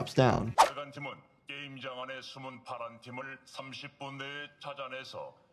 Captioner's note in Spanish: hablando idioma extranjero